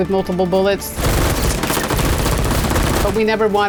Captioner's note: guns shooting